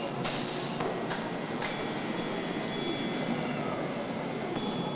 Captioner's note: machinery rumbling